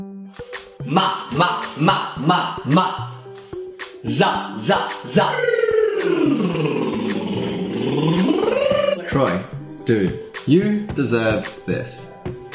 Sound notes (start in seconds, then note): 0.1 upbeat music; 6.0 blows raspberry